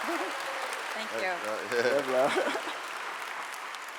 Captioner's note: clapping